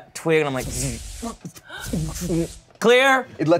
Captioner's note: electricity crackles